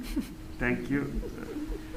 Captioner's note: various giggles